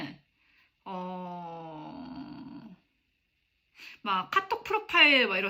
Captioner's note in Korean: 신음